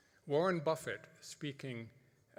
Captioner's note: none